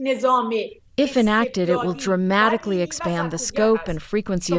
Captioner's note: through translator